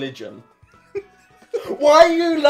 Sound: slowly laughing

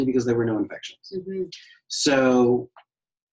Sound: noise of agreement

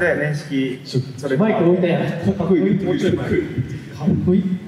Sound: laughs

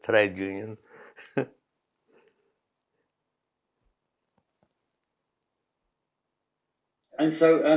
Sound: laughs

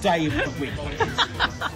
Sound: laughing

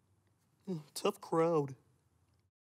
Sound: sighs

